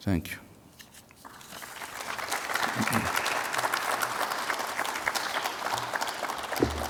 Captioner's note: audience applauds